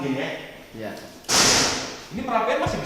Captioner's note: bang!